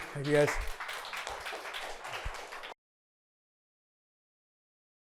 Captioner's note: attendees applauding